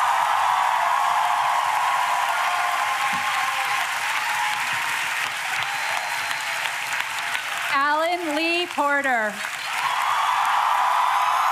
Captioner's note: applause